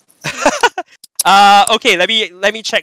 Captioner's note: chuckles